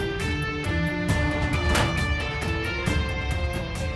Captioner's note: Van door closes